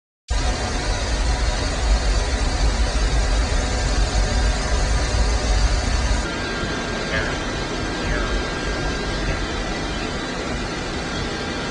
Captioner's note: sound of jet engines running